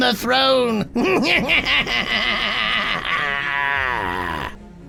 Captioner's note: Emrick laughs